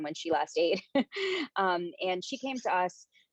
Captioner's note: chuckles